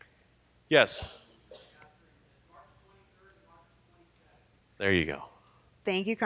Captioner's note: person speaking off mic